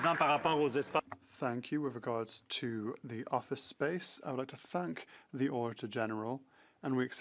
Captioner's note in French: voix de l'interprète